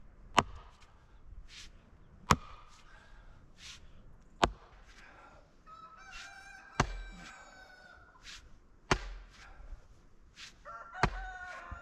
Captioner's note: wind blowing